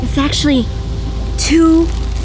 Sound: none

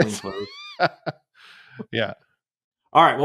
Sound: laughs

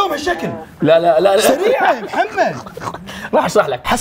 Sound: laughs

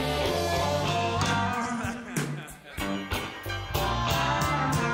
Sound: singer laughing

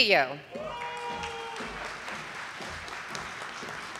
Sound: audience applauding

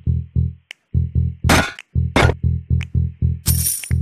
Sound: stomp x2

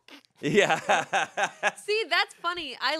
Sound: laughs

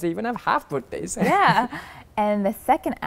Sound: laugh

